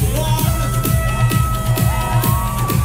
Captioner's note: horn blowing; cheering